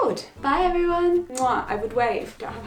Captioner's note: kissing smack